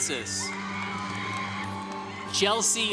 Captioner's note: congregation cheering